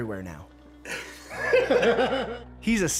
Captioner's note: laughing